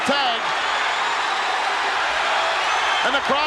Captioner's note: audience cheers